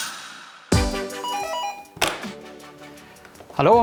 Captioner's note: doorbell